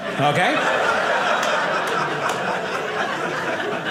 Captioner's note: audience laughing